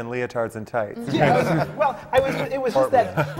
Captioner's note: laughter